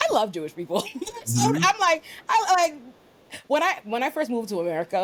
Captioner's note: laughs